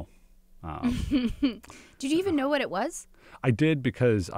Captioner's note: laughs